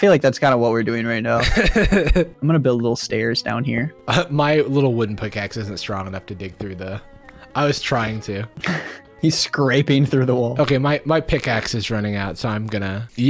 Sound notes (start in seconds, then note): 1.4 laughs